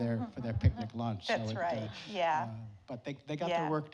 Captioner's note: audience laughing